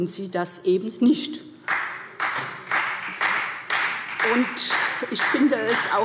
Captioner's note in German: Beifall SPD